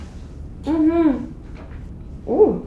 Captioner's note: Bruna moans